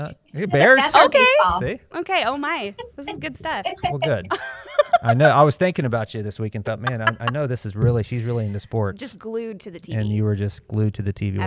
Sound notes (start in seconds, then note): 2.7 laughs